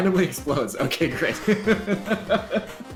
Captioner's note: laughs